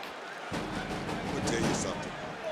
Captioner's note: thumps